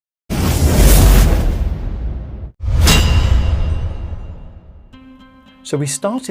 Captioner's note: dramatic music; logo clanging